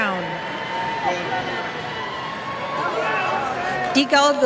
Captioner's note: cheers